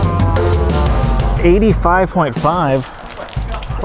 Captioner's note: gasoline splatters on the ground